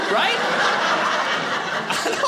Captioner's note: audience laughing